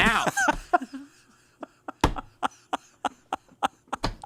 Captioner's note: laughs